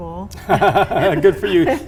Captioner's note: laughs